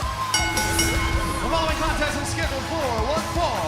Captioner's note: bell ringing